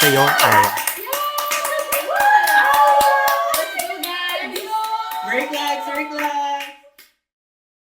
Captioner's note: cast and Crew cheering